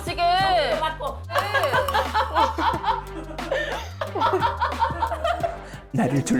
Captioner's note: polite laughter